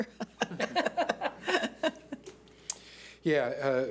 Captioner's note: laughing